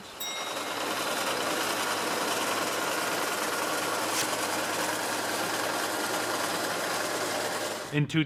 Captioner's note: harvester sounds